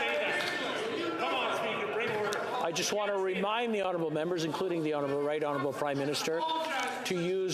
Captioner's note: yelling